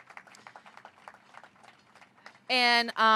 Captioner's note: applause